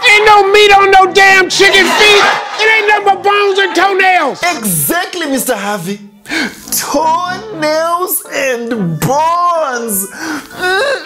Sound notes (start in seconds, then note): 2.6 laughing